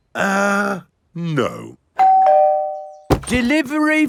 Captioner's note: doorbell rings